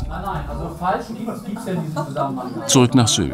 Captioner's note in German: Stimmengewirr